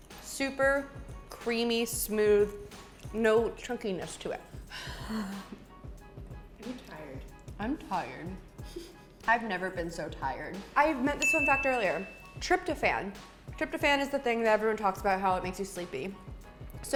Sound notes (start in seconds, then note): 4.7 sighs; 8.8 laughs; 11.2 ding